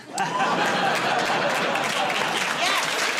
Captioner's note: laughter and applause